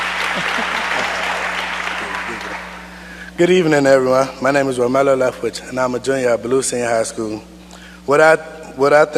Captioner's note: applause